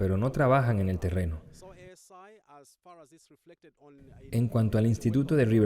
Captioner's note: Hablando idioma extranjero